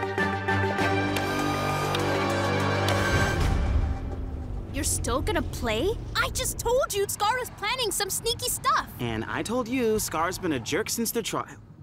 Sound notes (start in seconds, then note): 0.7 whirring